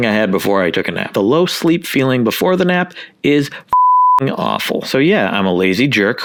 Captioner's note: beep